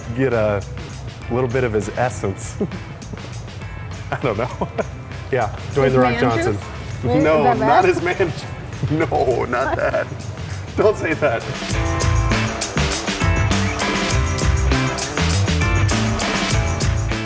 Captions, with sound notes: Get a little bit of his essence. (laughing) I don't know. Yeah, Dwayne "The Rock" Johnson. - His man juice? - No, not his man... - Is that wrong? - No, not that. Don't say that. (upbeat music)